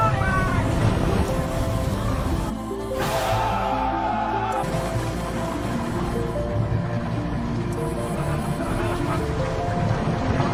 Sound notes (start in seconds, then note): 3.1 soldiers shouting; 5.4 bright ethereal music; 5.4 water splashing